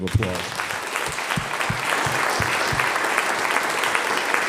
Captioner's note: audience applauds